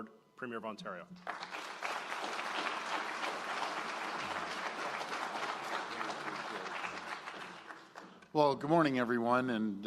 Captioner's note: applause